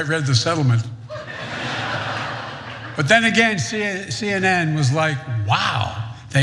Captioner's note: laugh